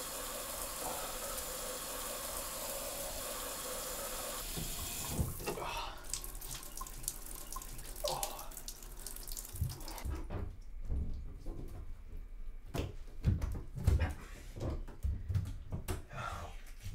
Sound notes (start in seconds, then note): 6.0 water stops